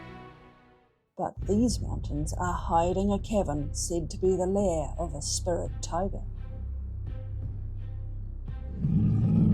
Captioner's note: roar